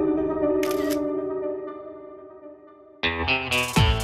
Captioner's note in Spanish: Clic de la cámara